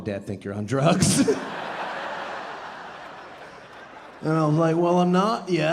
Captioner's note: audience laughing